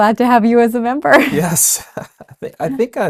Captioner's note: laughs